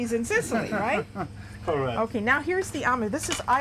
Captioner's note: laughter